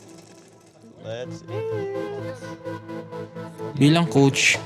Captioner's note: indistinct chatter